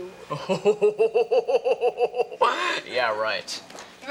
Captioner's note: laughs incredulously